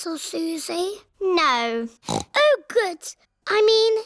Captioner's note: snorts